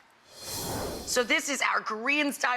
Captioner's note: whooshing